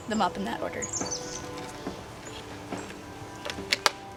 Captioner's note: birds chirping